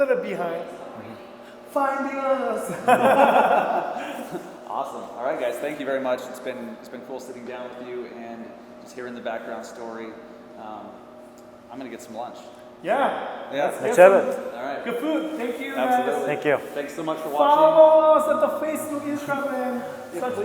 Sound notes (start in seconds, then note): 2.7 laughing